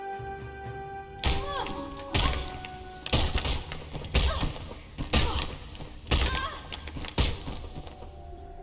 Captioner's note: repeated thuds and pained grunts